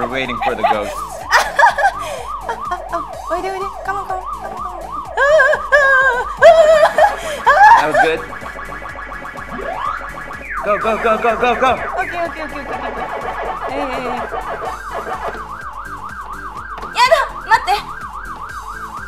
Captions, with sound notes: You're waiting for the ghosts. (laughing) (speaking in foreign language) (screams) That was good. Go, go, go, go, go, go! - Okay, okay, okay, okay, okay, okay. (speaking in foreign language)